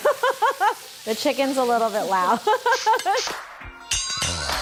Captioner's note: laughing; laughing; upbeat music